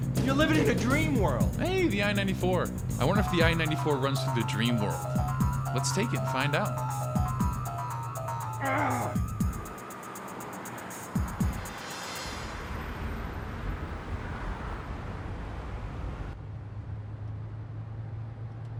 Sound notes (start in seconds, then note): 8.5 Ray groans; 12.8 traffic humming